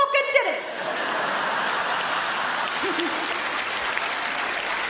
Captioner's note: audience laughing; audience clapping